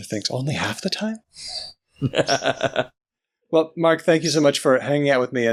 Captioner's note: laughs